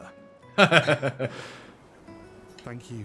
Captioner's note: laughing